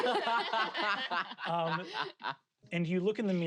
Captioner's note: laugh